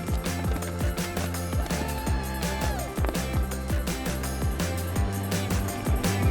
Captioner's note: flags rustling; racer shouts